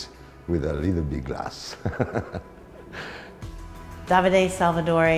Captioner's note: laughter